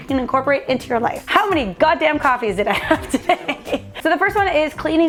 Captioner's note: laughs